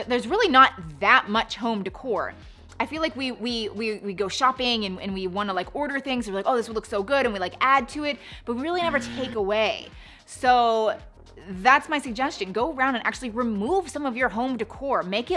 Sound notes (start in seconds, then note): 8.8 buzzer buzzes